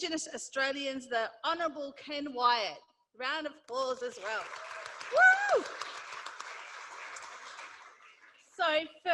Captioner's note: applause